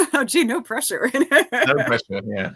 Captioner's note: laughing